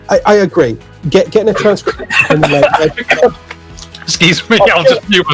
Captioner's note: coughing